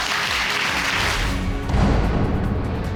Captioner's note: applause